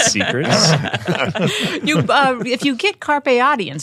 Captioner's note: all laughing